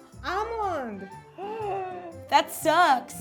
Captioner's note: gasps